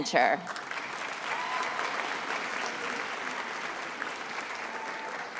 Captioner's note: attendees applauding